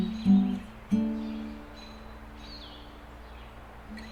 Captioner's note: country Music; birds chirping